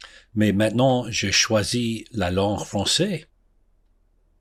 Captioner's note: speaks in French